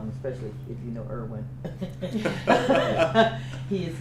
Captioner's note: laughter